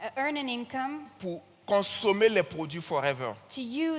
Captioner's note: continues in French